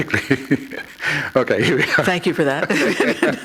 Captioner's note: laughter